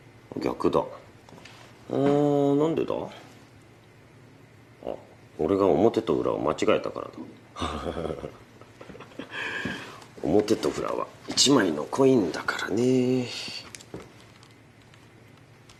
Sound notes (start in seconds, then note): 7.6 laughs